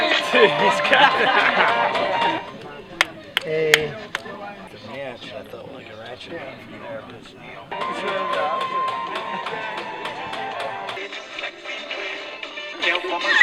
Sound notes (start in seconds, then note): 2.9 hammering; 7.6 music on radio; 13.2 people laughing